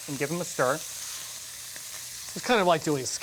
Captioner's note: sizzling